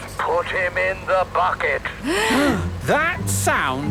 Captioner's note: both gasping